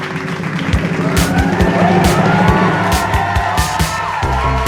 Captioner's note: drum rolling; crowd cheering; upbeat music